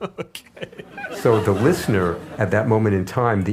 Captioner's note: laughs